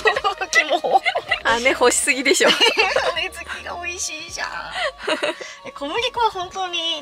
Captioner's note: laughs